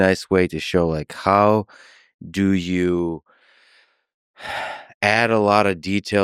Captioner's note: sighs